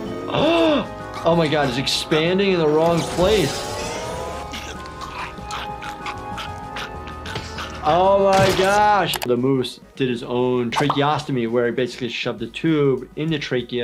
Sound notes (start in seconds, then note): 0.2 gasps; 4.4 Lumpy choking; 4.5 suspenseful music